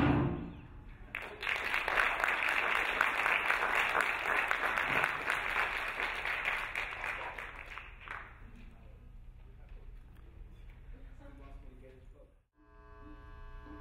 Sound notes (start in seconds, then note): 1.1 applauding